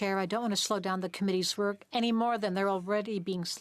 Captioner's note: speaking French